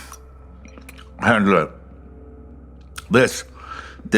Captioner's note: with mouth full